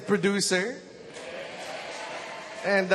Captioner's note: audience cheers